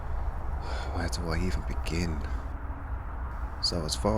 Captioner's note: sigh